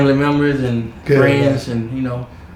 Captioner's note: laughing